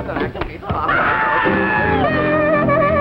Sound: shouting

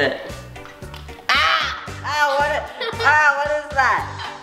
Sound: screams

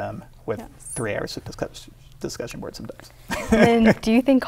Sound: laughs

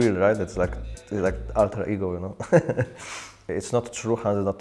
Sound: laughs

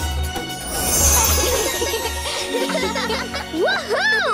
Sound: laughter

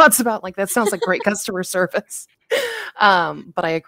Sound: chuckles

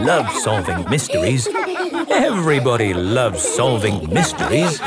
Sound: laughter

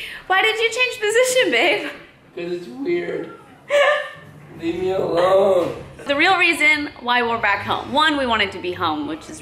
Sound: laughing

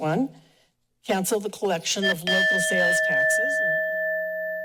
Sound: bell dings

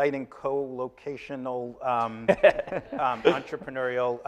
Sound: laughing

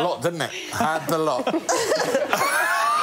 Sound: laughter

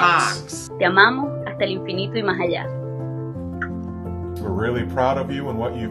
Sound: speaking in foreign language

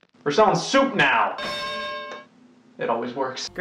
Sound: bell dings

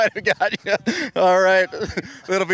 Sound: laughing

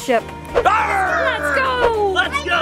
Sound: grunting

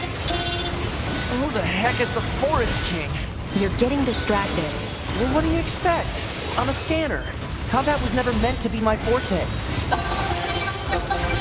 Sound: game chatter

